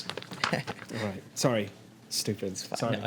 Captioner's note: laughs